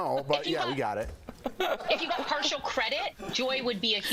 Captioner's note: laughter